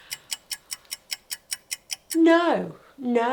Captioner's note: clock ticking